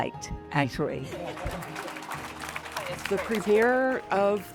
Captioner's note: audience applauding